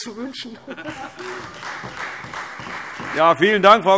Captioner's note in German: Heiterkeit - Beifall Freie Demokraten